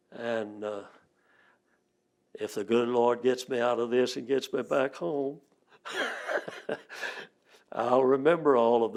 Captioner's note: laughs